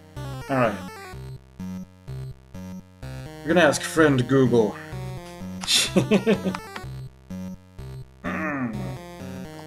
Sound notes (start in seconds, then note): 5.7 laughs softly; 8.2 clears throat